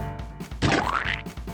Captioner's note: splat